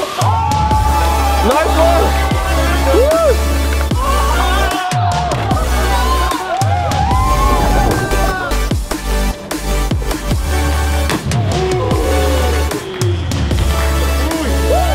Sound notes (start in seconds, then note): 0.2 cheering; 4.2 screaming and cheering